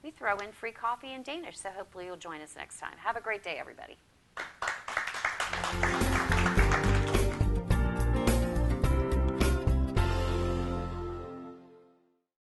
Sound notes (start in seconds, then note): 4.3 applause